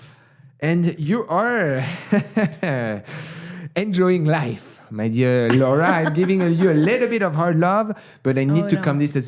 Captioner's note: laughs